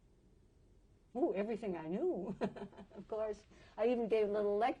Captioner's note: chuckles